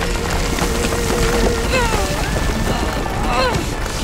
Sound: grunting

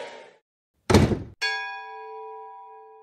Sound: crowd cheering; button thudding; bell dinging

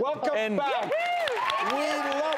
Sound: applause

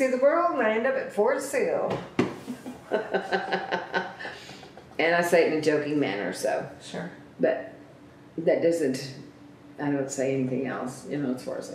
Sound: laughs

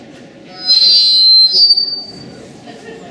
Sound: microphone squeal

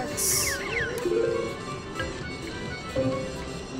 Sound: machine beeps

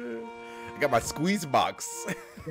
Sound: laugh

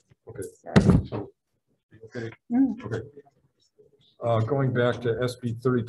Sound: group chattering

